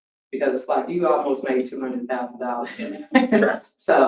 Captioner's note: laughs